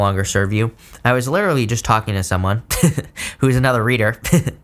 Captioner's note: laughs